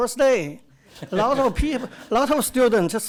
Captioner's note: audience laughter